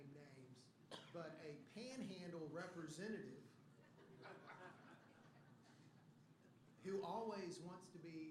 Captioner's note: laughter